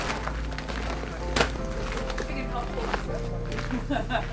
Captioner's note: bags rustle